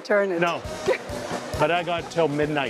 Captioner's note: laughs